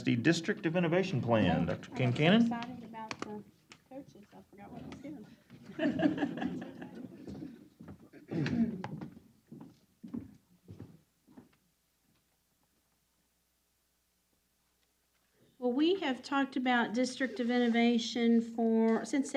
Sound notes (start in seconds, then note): 5.6 laughter